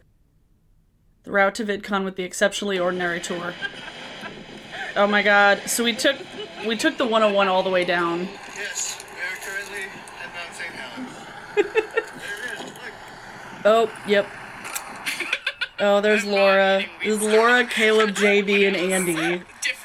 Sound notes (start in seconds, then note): 4.2 people laughing